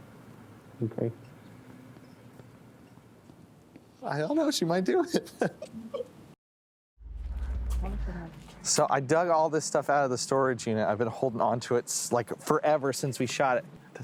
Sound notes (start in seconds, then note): 5.0 chuckles; 7.0 tense music